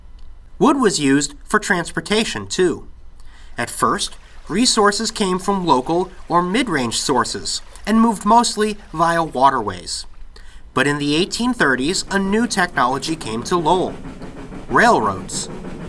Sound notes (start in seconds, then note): 3.3 bubbling sound of water flowing; 12.3 sound of a steam engine chugging, growing lounder